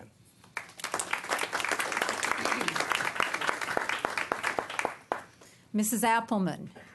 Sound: applause

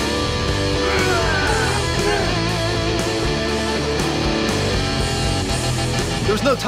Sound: growls

